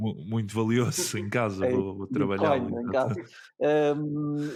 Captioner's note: laughs